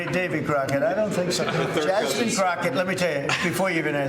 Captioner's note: laughter